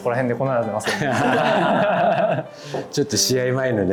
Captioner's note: laughing